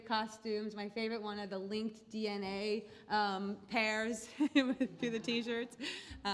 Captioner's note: laugh